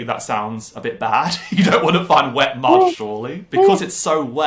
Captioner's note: laughing